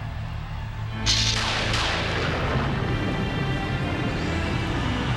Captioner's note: thunder crackling